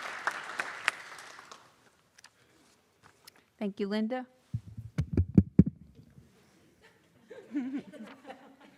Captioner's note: applause